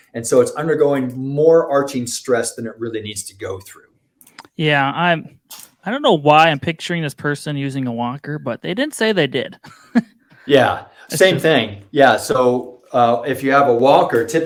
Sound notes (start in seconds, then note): 9.6 laughs